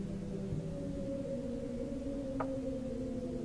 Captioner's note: none